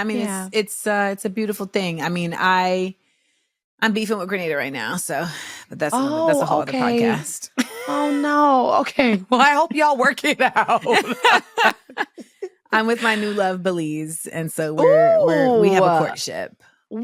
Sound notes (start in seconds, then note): 10.5 laughs